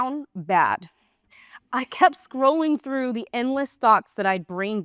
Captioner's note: gasp